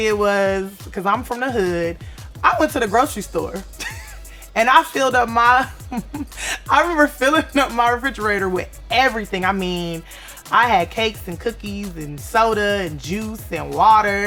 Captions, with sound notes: refrigerator with everything I mean, I had cakes and cookies and soda and juice and water. I booked the premium top suite at the SLS (laughs). I'm eating sushi, I booked liked a, I think it was like a